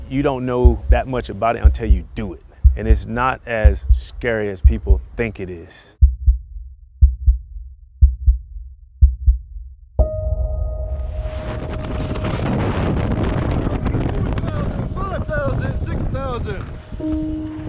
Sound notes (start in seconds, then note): 11.0 wind gusting